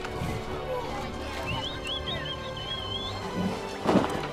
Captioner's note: whistling